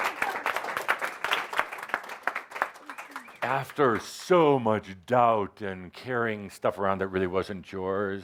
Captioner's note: audience applause